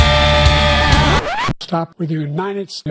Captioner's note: record scratch